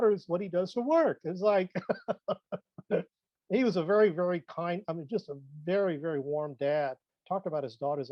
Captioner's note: laughs